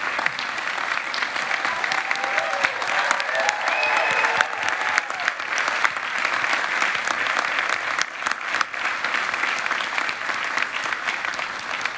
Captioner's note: applause